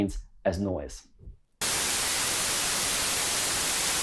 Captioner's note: white noise